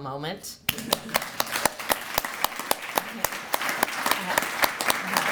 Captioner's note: applause